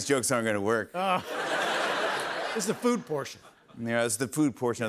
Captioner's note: laughter